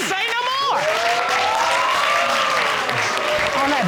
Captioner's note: audience cheering, applauding